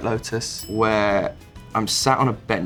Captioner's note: bell ding